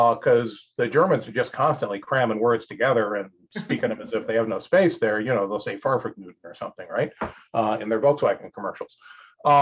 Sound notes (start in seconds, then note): 5.9 speaks German language